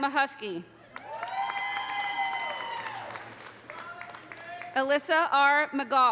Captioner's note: audience applauding; audience cheering